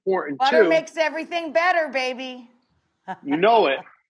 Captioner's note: laughs